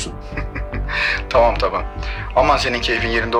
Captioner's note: laughs